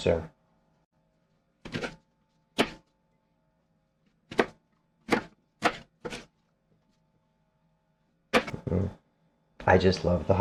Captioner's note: knife cutting